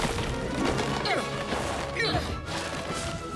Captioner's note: grunting